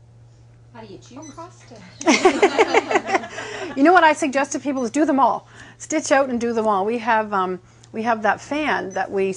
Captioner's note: laughing